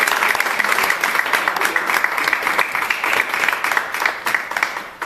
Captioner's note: applause